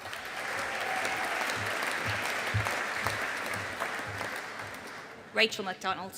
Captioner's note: audience applauding